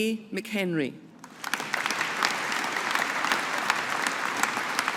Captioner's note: audience applauding